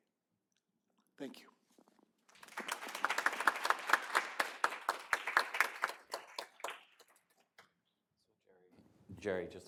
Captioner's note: applause